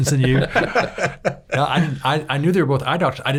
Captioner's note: laughing